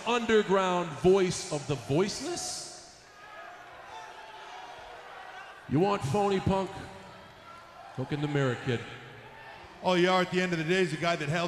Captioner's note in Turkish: Alkışlar